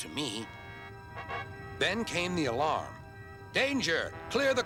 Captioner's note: alarm blaring